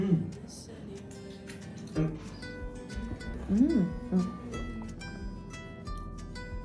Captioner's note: sniff sniff